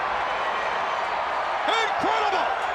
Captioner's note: crowd cheering